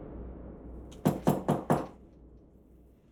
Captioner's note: door knocks